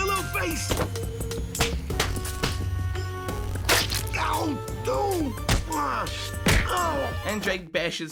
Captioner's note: wet Slapping And Fighting Sounds